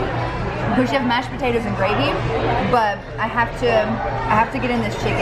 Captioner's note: none